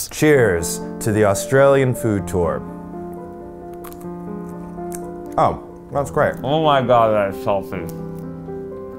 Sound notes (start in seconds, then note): 3.1 gentle piano music; 3.7 chewing